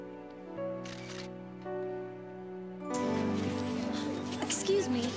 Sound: camera shutters

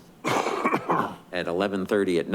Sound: coughs

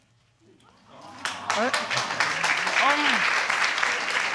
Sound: audience cheering and clapping

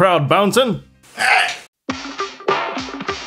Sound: the sound of struggle

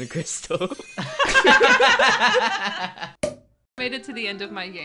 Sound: all laughing

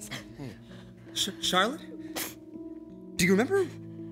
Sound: none

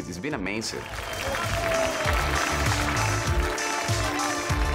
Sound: applause

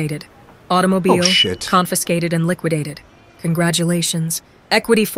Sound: AI Voice

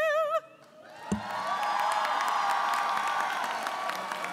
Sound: applause

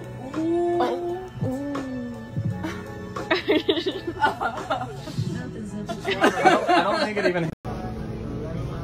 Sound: laughter

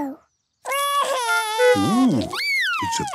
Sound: cries

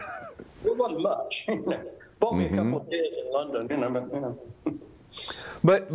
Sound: laughs

